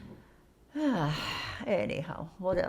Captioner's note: sighing